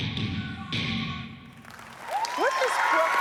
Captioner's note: cheering and applause